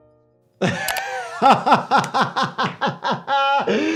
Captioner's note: laughing